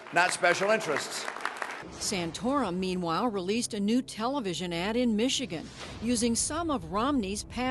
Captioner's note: applause